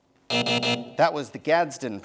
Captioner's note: buzzing